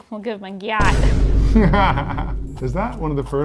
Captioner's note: laughing